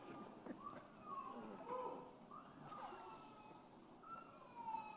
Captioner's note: baby crying